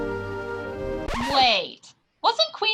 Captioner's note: record scratches